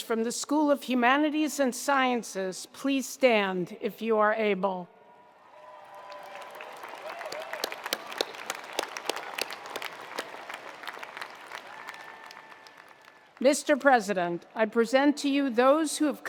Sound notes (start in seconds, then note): 5.2 attendees cheering; 5.5 attendees applauding